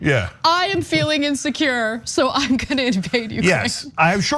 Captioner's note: laugh